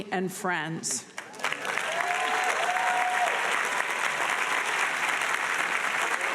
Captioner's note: audience applauding and cheering